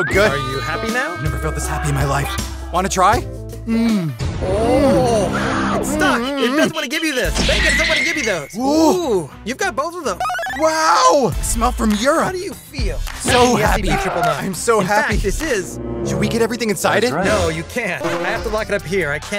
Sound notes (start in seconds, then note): 3.6 moaning